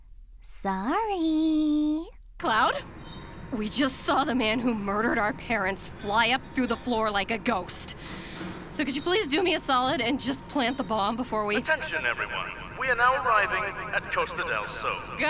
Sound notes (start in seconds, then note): 8.0 deep breath